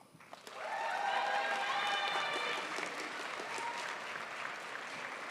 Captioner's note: crowd applauds